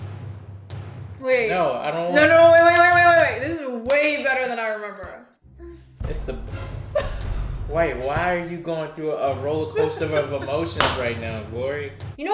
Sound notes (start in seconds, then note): 0.0 pounding music; 2.7 claps; 6.9 laughs